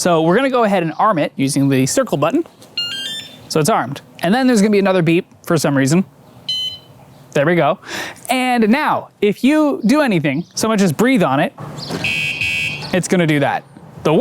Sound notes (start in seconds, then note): 2.7 chirp; 6.5 beep; 12.0 beep